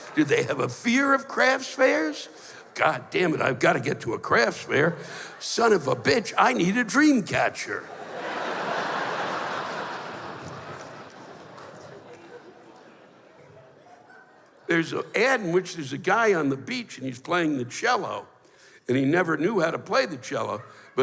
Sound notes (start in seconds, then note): 7.8 laughter